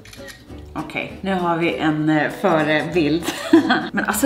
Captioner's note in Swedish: Skrattar